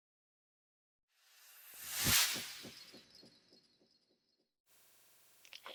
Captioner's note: sound effect